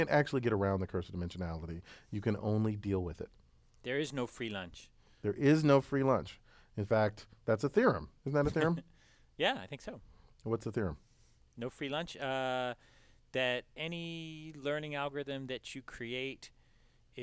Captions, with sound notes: actually get around the curse of dimensionality, you can only deal with it. >> There is no free lunch. >> There is no free lunch. In fact, that's a theorem. >> [LAUGH] >> Isn't that a theorem? >> Yeah, I think so. >> What's the theorem? >> No free lunch. That any learning algorithm that you create